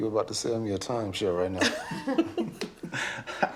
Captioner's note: all chuckling